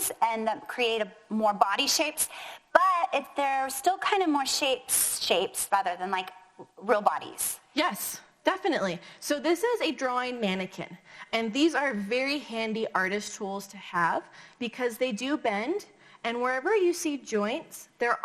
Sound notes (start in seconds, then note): none